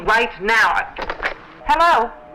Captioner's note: phone clicks